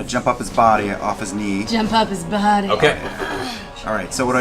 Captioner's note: sultry